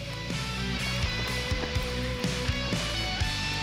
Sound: water splashing

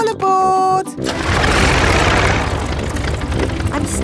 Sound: plane engine starts

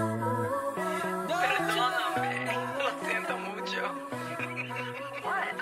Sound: laughter

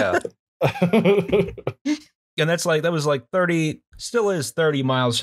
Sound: laughter

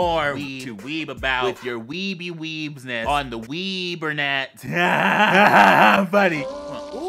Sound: laughs

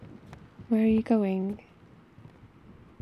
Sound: footsteps

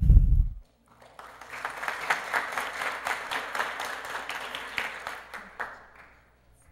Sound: applause

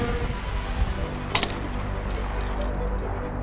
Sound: crash

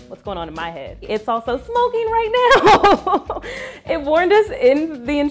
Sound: laughs

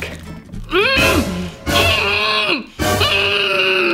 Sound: muffled scream

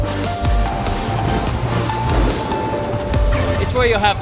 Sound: techno Music; engine coming to a halt

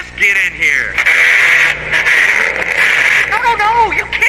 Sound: engine revving

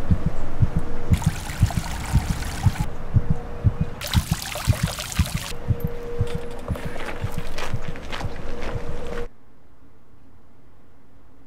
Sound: heart beating faster; water gushing

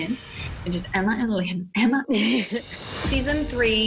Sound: laughs

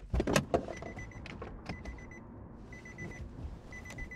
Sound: car door beeping

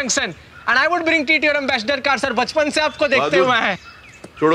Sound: speaking Foreign Language

